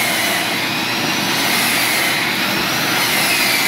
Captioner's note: drilling; vacuum